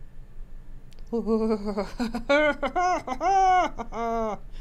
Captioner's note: laughs